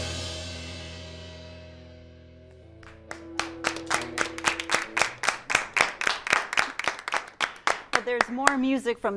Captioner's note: applause